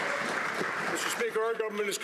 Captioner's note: some Applause